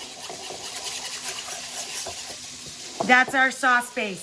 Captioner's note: whisks sauces in bowl